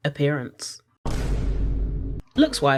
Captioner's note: Vine Boom